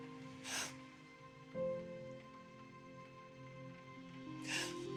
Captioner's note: sobbing